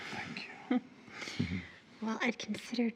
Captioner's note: Maggie laughing